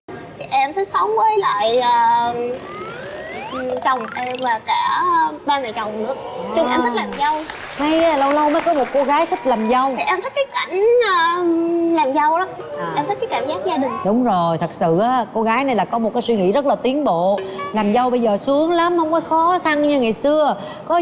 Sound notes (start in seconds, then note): 7.0 applause